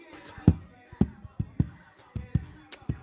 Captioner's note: beat boxing; rapping